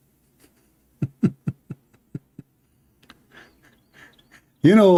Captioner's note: Ketawa